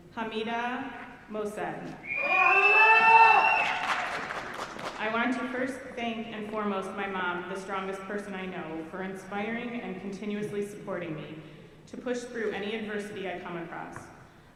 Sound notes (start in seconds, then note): 2.0 audience cheering